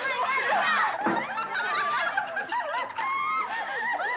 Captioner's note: kids laughing